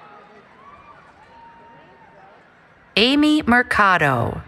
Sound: cheering

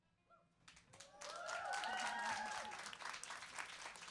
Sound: applause

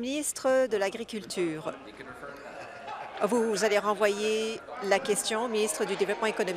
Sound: applause

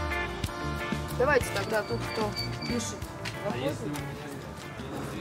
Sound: speaking in foreign language

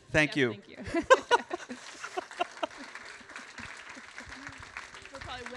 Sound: laughs

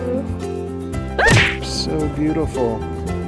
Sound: cheerful music; gasps; smash sound effect

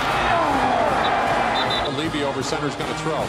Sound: whistle

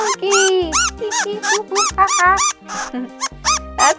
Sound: monkey squeaks

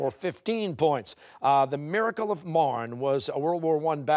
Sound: none

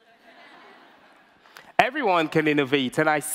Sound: audience laughter

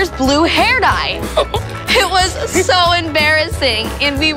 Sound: laughing

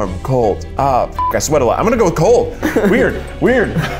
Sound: beep

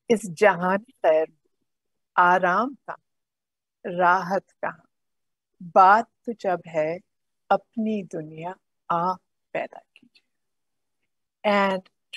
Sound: speaks in Urdu

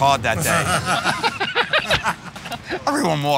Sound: laughter

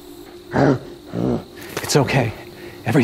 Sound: Bigfoot growls

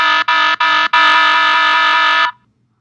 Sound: alarm sound; alarm sound at greater frequency; silence

